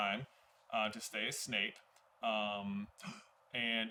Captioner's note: gasp!